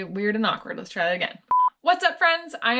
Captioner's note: beep